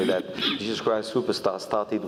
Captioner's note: cough